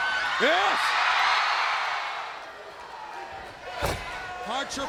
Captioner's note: audience cheering